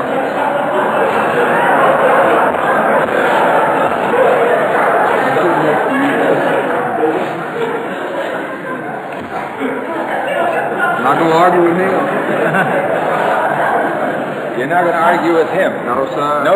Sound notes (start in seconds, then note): 0.0 audience laughter; 11.9 laughs